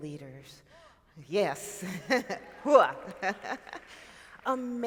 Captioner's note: laughs